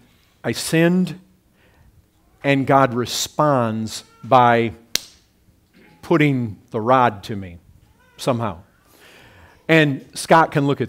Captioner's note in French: paff